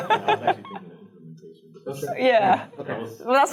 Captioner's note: laughing; speaking off microphone